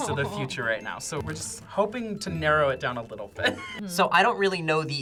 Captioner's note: laughs